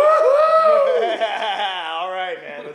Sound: laughter

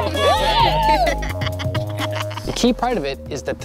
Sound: laughing

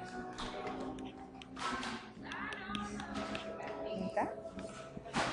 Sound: people talking

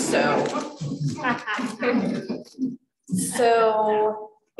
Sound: laughter

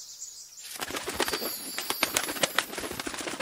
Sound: birds flapping

